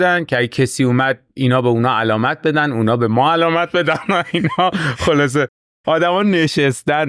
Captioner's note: laughs